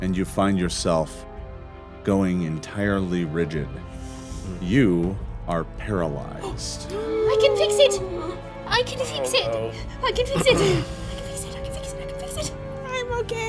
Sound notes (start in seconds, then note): 6.8 gasping